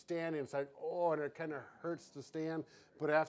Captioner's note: groans